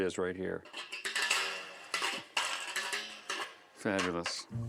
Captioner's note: creaking